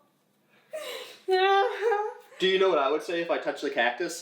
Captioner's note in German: lacht